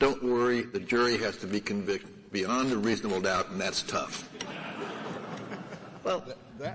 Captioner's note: laughter